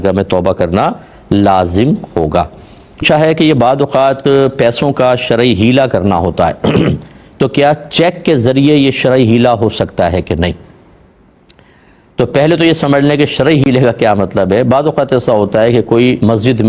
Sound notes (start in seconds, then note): 6.6 clears throat